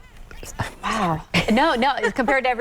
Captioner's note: laughs